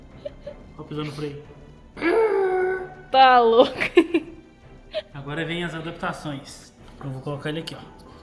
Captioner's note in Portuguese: risadas